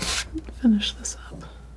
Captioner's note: scratching